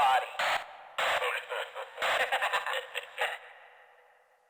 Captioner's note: both laughing